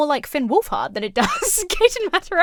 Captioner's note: laughs